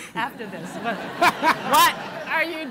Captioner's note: laughter